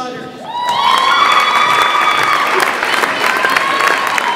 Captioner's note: audience applauds and cheers